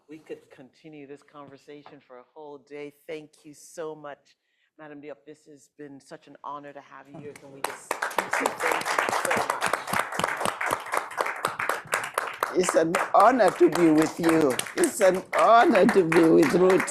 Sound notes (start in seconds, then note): 8.5 all applauding; 13.6 laughs